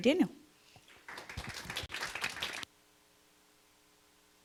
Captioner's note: clapping